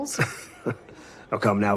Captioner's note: laughs